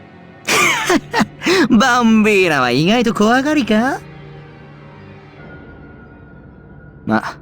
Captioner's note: chuckle